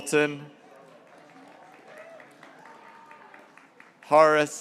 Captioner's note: graduates cheering